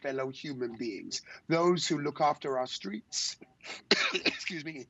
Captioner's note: coughs